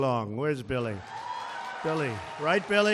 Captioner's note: applause